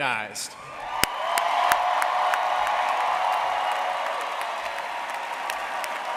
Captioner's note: audience cheering and applauding